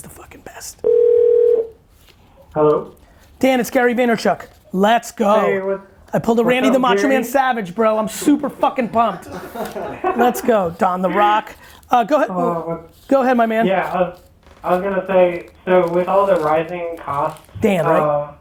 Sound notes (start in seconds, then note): 0.8 phone ringing; 8.2 group laughs